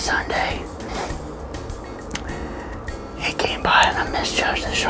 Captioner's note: whispering